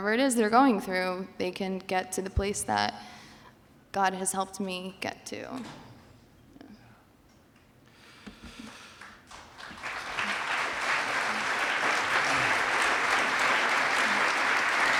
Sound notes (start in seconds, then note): 8.9 applause